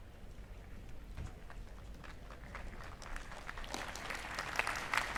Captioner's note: applause